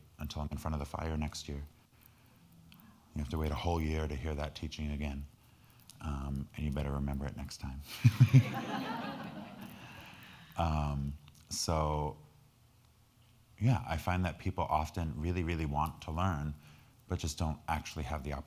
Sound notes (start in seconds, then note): 8.0 all laughing